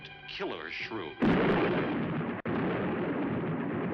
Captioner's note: thunder